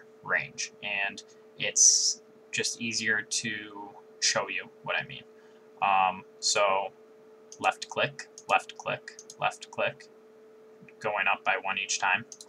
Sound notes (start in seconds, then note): 7.5 left click